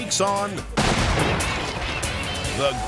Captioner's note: explosive booms